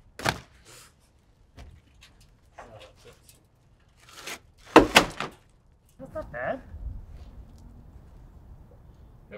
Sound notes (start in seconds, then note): 4.6 shingles bangs